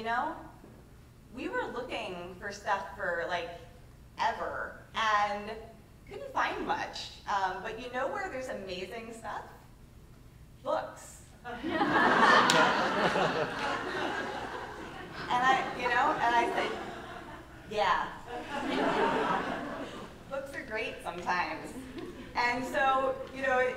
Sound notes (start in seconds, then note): 11.5 laughter